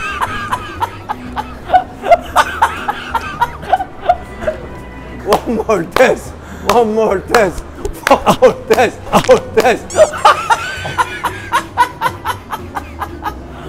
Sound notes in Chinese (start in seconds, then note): 2.0 笑到不行